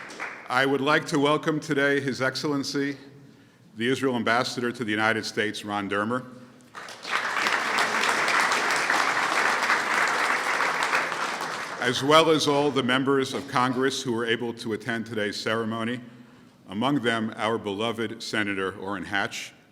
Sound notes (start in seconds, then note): 6.7 applause